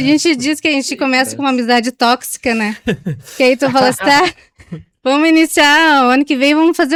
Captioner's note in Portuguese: risadas